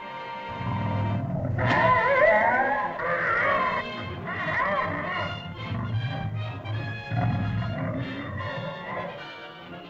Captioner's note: suspenseful music; dinosaur yelps & squawks; suspenseful music